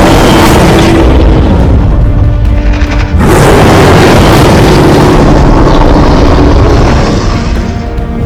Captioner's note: Kong loudly roaring